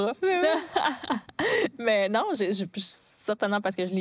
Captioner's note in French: rires